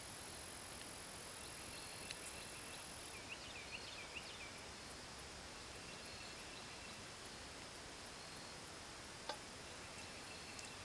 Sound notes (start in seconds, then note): 3.0 bird chirping